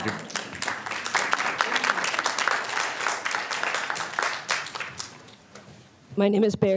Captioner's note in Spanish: Aplausos